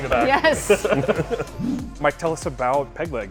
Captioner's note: both laughing